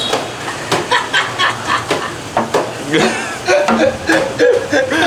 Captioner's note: starts laughing